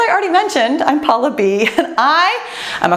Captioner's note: laughs